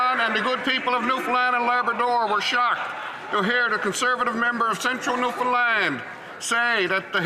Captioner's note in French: voix de l'interprète